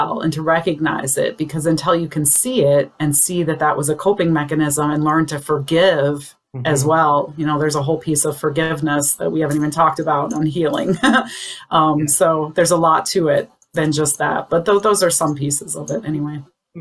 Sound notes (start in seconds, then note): 10.8 chuckles